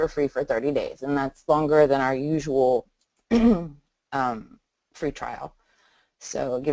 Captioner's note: clears throat